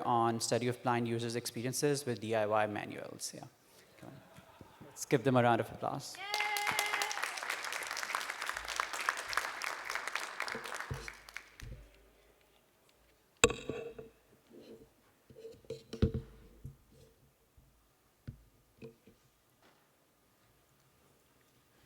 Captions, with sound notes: on study of blind users' experiences with DIY manuals. Yeah. Let's give them around of applause. [APPLAUSE]